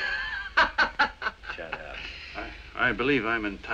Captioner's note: gangster laughing